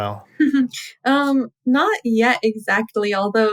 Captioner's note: laughter